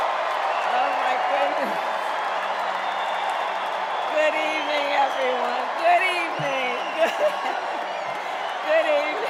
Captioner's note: cheers and applause